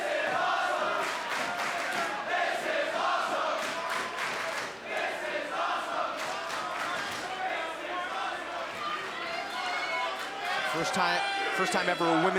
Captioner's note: crowd cheering